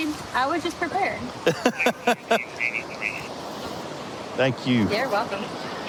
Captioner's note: laughing